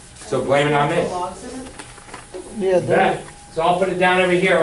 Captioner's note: murmuring